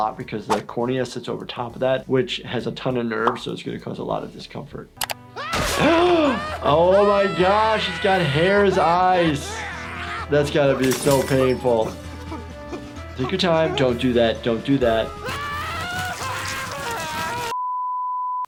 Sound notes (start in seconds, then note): 5.3 Cuddles screaming; 15.1 Cuddles screaming